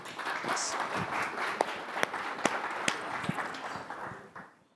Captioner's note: applause